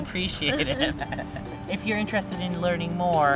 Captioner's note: laughing